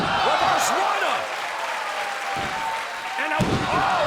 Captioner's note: crowd cheering